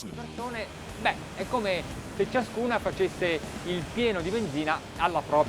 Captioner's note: speaking in foreign language